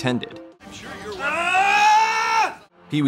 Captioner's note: Pee-wee screams in frustration